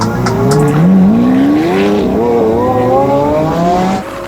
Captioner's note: engine roaring